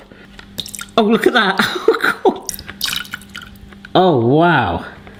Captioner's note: laughing